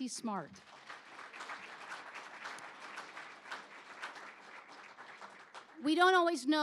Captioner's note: applause